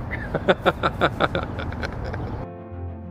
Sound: maniacal laughter

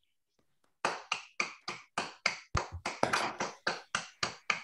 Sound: applause

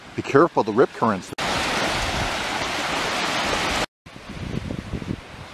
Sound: water splashing

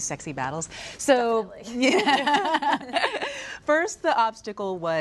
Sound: laughing

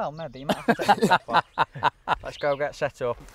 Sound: laughter

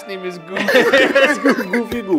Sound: all laughing

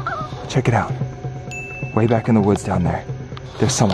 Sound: bell dings

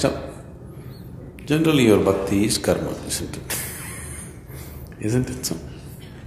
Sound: laughs

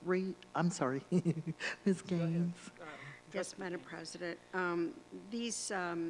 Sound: giggle

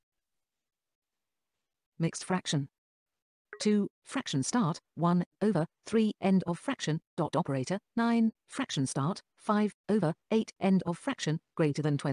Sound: synthesized speech

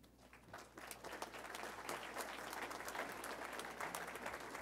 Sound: audience applauding

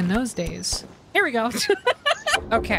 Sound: laughter

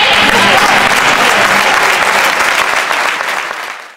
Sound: shouts and applause

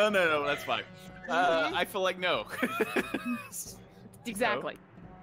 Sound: laughs

